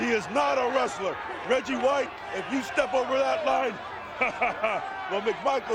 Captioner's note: chuckles